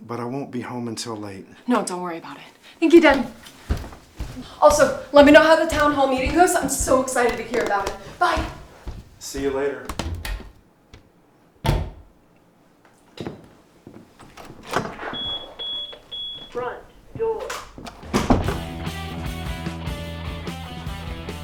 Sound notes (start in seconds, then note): 11.4 upstairs door closing; 15.1 security system beeping; 18.6 upbeat rock music